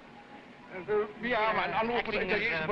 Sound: officer speaking foreign language

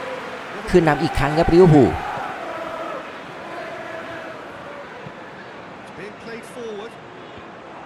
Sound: applause

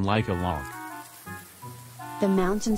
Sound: sound of wind and fallen leaves

